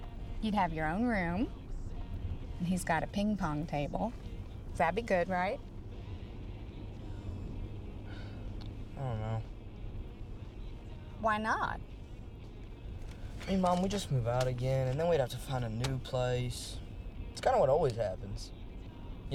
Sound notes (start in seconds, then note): 8.1 sighs